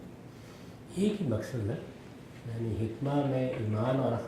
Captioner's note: speaking urdu